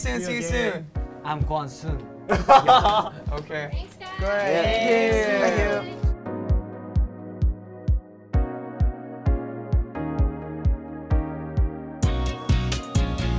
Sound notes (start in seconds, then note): 4.1 members cheering; 7.0 upbeat music